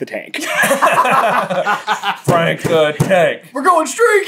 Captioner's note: laughing